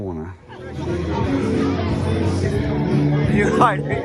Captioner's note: background chatter and music